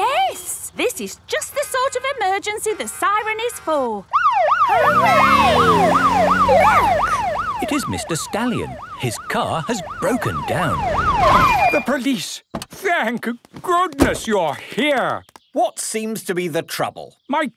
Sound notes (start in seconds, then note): 4.0 siren